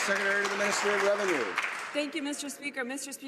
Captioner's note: some Applause